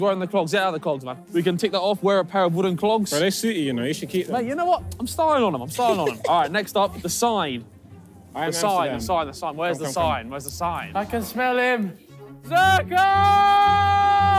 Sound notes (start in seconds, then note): 5.6 laughing